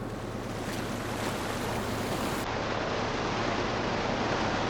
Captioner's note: waves crashing